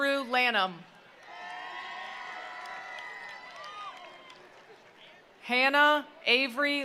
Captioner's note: attendees cheering; attendees applauding